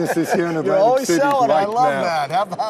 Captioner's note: laughing